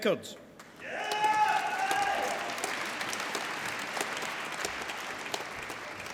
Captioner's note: applause